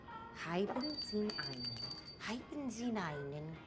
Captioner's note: rings bell; speaking broken german